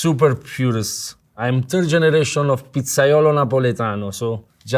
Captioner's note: speaking Italian